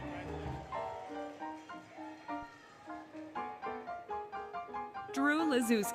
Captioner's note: applause, Cheering, Music